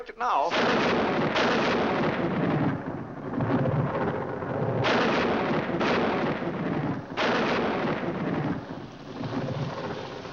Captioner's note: loud thunder; rain falling